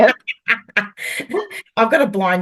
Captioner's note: is laughing